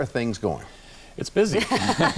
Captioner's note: laughs